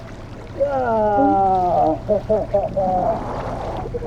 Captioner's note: laughing